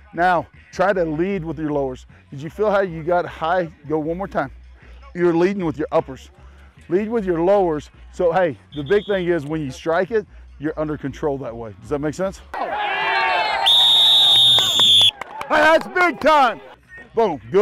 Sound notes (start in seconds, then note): 13.1 blows whistle